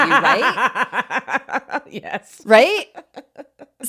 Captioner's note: laughs